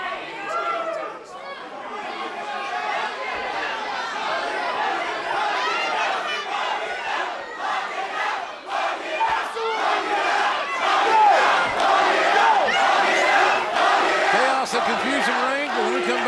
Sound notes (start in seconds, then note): 6.0 crowd chatter; 7.4 crowd cheering